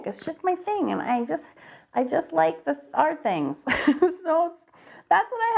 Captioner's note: laughs